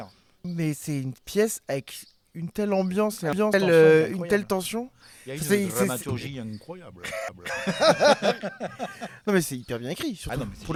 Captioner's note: laughs